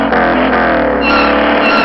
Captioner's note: skid